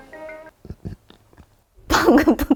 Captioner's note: burp